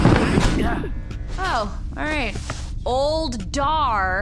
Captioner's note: sarcastically